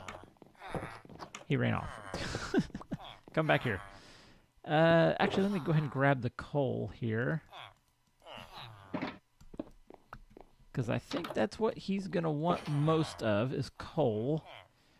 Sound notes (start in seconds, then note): 1.8 laughs